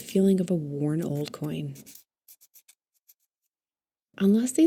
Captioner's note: scritches